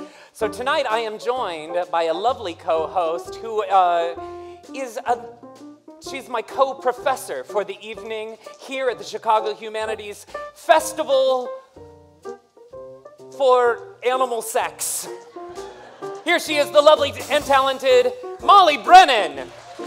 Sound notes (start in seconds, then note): 15.6 laughter; 18.6 applause, cheering